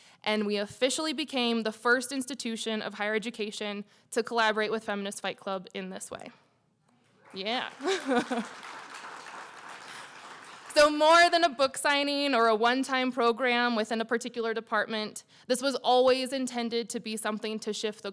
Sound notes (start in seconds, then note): 7.2 applause